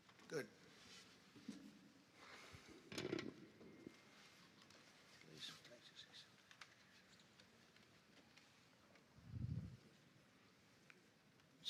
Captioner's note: speaking foreign language